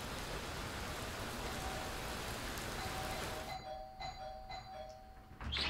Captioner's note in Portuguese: toque repetido da campainha